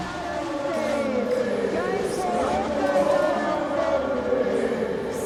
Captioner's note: chanting in foreign language